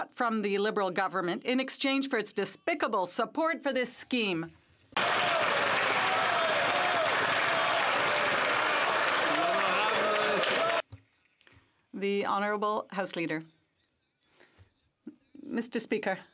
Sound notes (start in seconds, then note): 7.7 some Applause